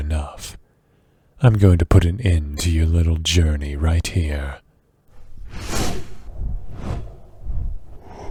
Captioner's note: wing noises